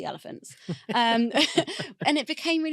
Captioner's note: laughing